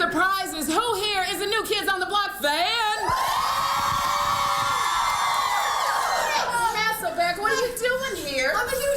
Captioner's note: crowd screams